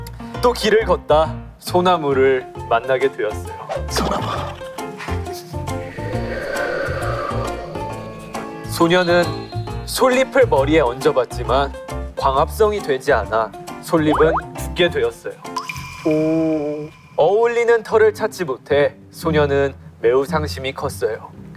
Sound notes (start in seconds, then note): 5.0 A sound effect of wind